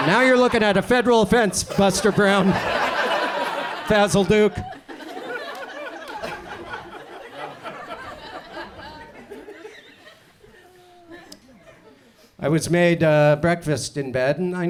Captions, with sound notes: And now you're lookin' at a federal offense Buster Brown, (audience chuckles) Basil Duke. I was made breakfast in bed.